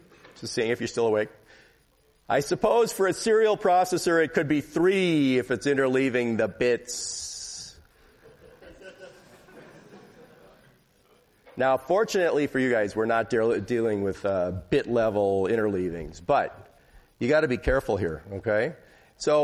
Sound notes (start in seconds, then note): 8.2 laughter